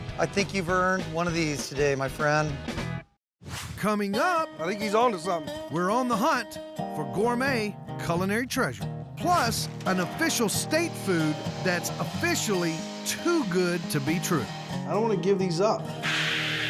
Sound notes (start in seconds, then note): none